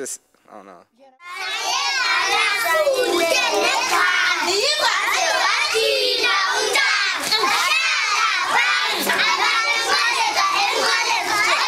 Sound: speaking in foreign language

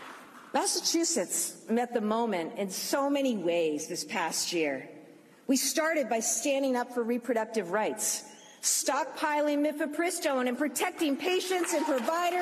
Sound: applause

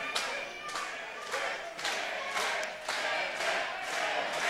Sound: crowd chanting

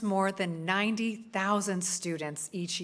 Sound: none

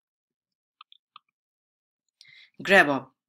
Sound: breathes

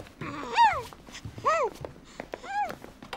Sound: baby coos

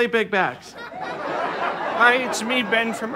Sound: audience laughter

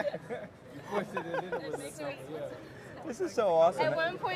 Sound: attendees chattering

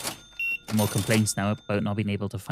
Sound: beeping

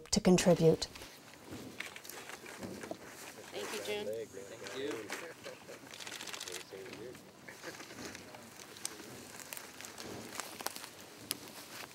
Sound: crackling fire

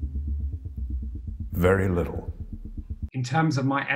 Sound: background thrumming

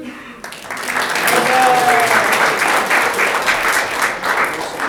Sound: audience clapping

